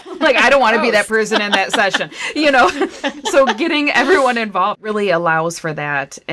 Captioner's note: laughter